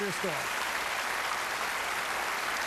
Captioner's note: applause